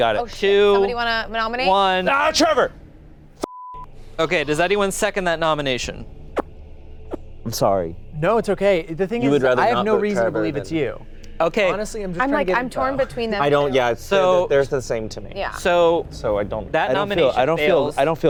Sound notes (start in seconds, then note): 3.4 beep; 6.1 light music